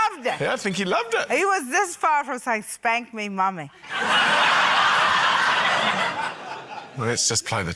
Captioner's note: laughter